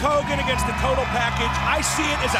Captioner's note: crowd cheering